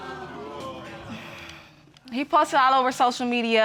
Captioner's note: sighs